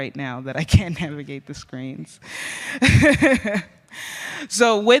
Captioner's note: laughs